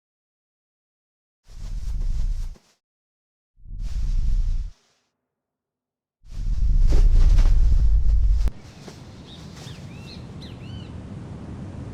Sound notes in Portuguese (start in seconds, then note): 1.5 Som de tremores; 6.4 Som de tremores se intensificam; 6.4 Som de tremores; 8.5 Sons ambiente de pássaros; 10.3 Som ambiente de vento